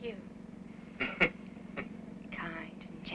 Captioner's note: chuckling